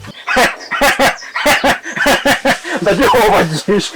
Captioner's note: Kamili laughing alot